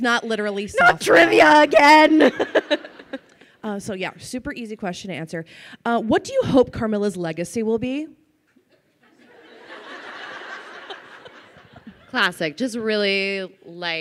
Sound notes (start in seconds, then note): 0.8 laughs; 9.0 crowd laughs